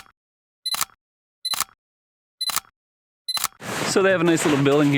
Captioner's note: camera beeping, clicking